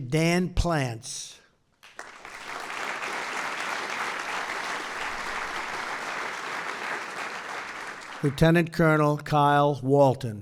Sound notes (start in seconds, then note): 6.6 applause